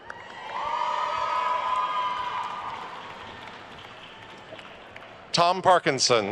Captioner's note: attendees cheering and applauding